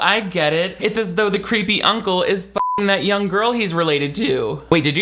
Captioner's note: beep